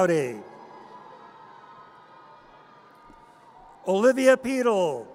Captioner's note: audience cheers